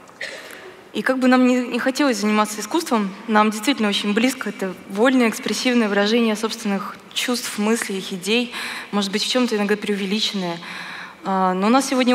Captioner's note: foreign Language